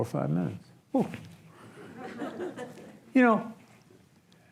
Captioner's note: audience laughs